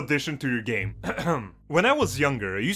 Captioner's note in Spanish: Ejem